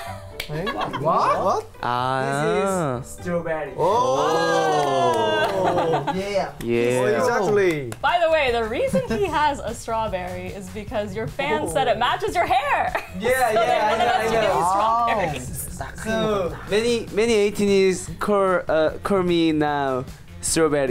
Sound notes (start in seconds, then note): 0.0 scoffs; 0.3 laughs; 7.4 claps